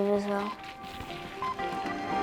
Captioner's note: beeping of start gate clock